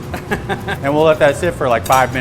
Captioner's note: laughing